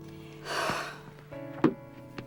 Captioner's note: exhales sharply